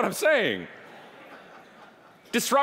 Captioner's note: audience laughing